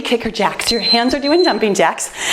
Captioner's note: timer beeps